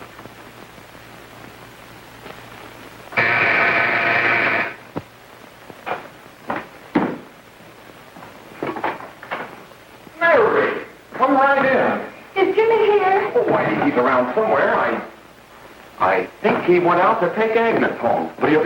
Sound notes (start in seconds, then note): 3.1 buzzing